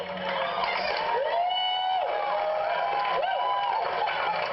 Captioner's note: applause